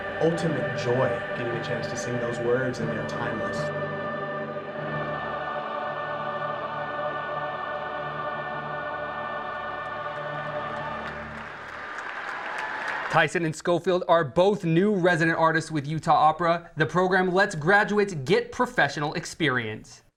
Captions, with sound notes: ultimate joy getting a chance to sing those words and they are timeless. (choir singing) (crowd applauding) Tyson and Scofield are both new resident artists with Utah Opera. The program lets graduates get professional experience.